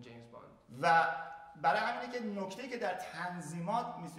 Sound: speaking in farsi

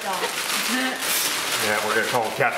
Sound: laughing

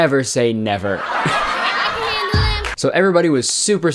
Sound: crowd Laughing Sound effect

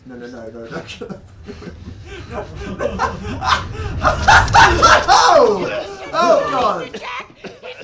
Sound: screaming

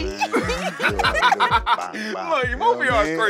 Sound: laughter

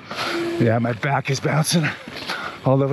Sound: panting

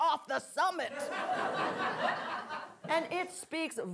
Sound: audience laughing

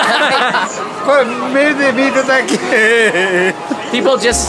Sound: all laugh; speaking Japanese

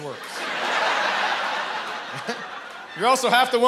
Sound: chuckles

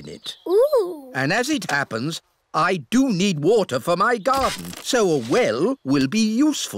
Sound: none

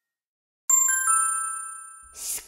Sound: ding!

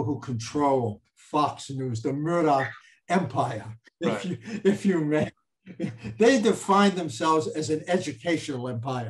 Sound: chuckles

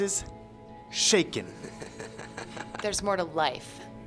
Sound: laughs

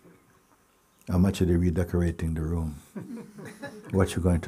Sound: laughter

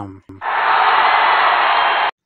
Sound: cheers

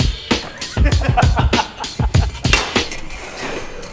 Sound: laughs

